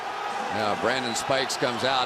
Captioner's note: cheering